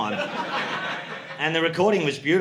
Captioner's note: audience laughing